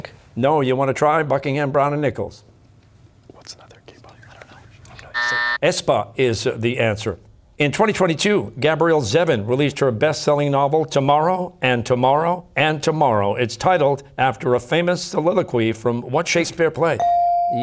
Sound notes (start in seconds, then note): 2.7 buzzer